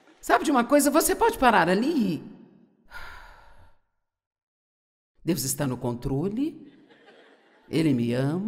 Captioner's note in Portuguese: suspirando